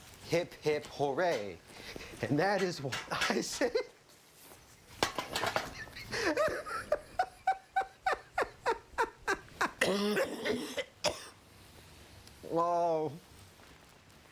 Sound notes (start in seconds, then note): 5.5 laughs; 9.2 coughs